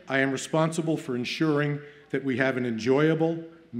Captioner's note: none